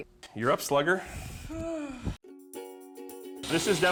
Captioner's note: exhales